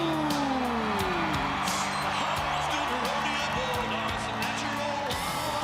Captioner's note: crowd cheering